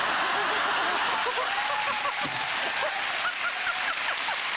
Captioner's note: laughing